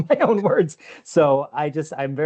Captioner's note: chuckles